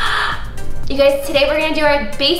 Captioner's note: gasps